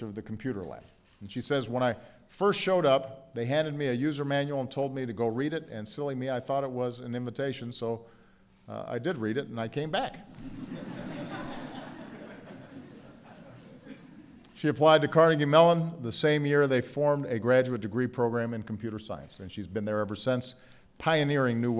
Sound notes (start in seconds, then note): 10.3 laughter